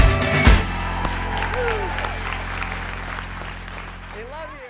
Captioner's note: applause